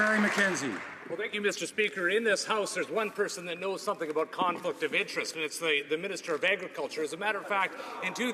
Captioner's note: some Applause